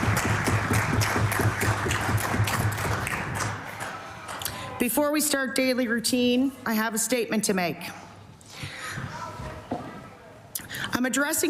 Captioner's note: applause